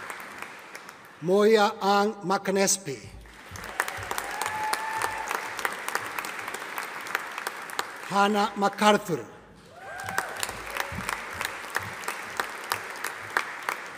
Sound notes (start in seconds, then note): 3.2 audience applauding; 9.7 audience applauding